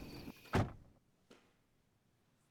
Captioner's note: truck door slams